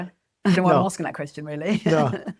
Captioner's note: laughs